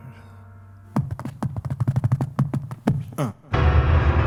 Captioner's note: fingers tapping; dramatic piano music